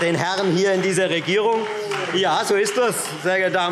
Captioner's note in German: Beifall Freie Demokraten - Zurufe BÜNDNIS 90/DIE GRÜNEN: Oh!